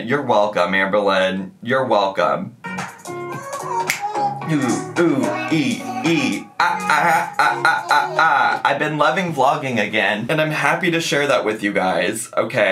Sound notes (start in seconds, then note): 2.7 upbeat music; 5.1 making music sound effects